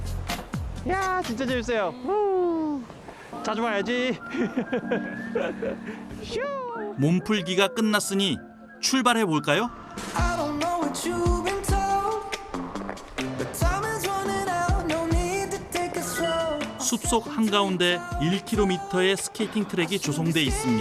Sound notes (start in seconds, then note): 4.2 laughter